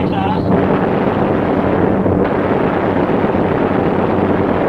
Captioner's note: gunfire sounding